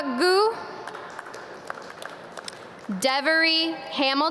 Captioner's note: audience clap